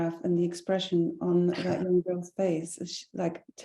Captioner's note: chuckling